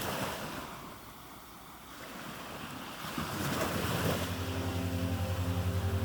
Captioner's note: water breaking on shore